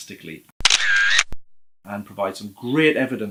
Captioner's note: camera shutter